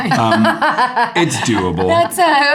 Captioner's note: Eiza laughing